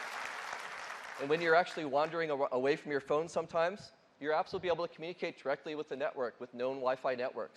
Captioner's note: applause